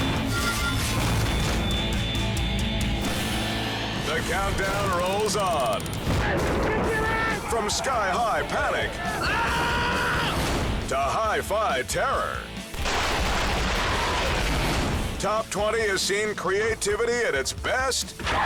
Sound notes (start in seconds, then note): 0.0 intense music; 6.9 skydiver screaming; 12.7 gunfire erupts